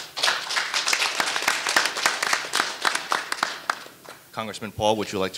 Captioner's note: audience applauding